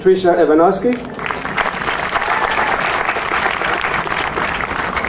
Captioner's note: audience applauding